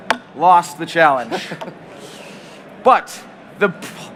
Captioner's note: laughter